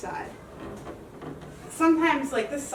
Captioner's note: wood creaking